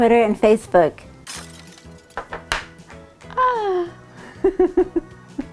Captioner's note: bowl clink; laughing